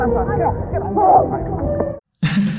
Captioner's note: wai lin grunts